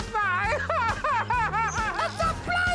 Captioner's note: fakes sobbing